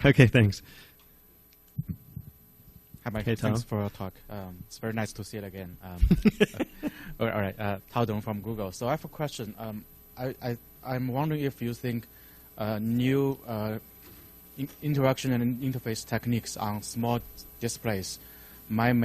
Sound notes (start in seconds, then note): 6.0 laughs